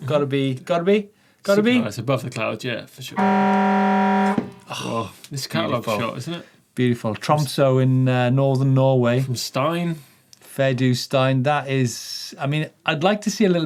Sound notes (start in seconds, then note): 3.2 buzzer sounding; 4.6 both sighing